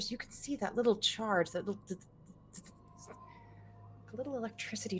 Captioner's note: imitates electricity